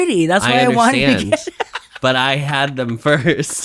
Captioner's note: laughs